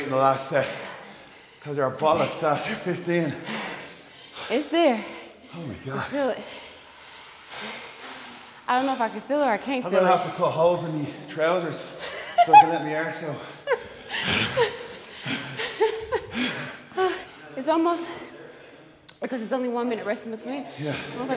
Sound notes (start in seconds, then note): 12.0 laugh